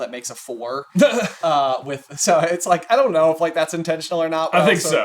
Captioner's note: laughs